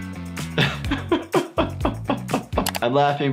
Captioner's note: doctor laughs